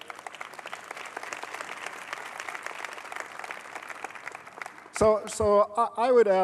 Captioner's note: applause